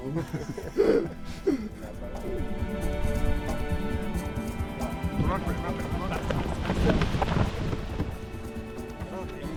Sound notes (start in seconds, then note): 0.0 laughter